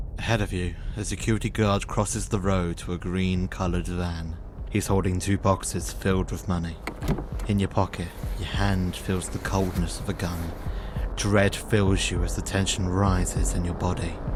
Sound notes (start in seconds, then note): 6.8 door opening